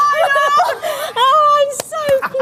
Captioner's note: women cheering